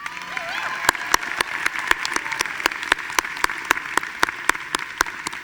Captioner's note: audience applauding